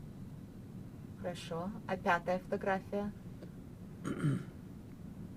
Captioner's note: clears throat